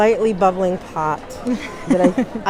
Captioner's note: laughter